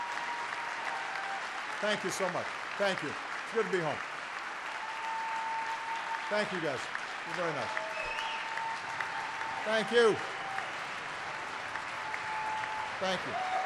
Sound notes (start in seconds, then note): 2.2 applause